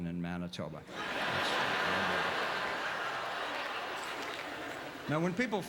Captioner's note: audience laughter